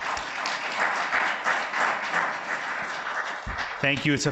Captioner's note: audience applauds